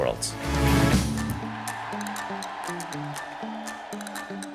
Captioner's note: cheering